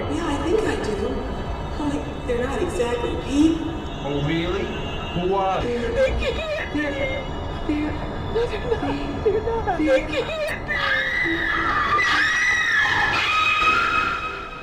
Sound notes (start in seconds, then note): 10.7 Cleo screaming